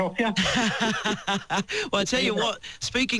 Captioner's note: laughs